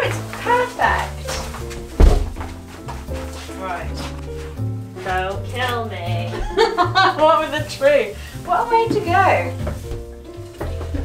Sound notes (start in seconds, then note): 6.2 chuckling